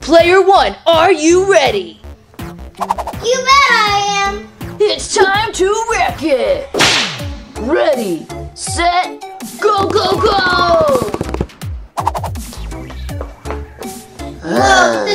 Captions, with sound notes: - Player One, are you ready? - You bet, I am. - It's time to wreck it! (whip cracking) Ready, set, go, go, go! (footsteps thudding) (growling)